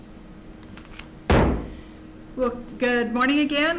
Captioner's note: gavel bangs